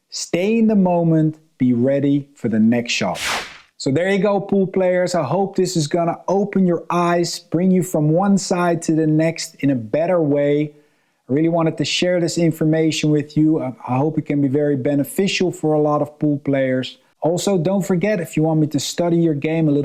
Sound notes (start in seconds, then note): 3.1 transition whooshing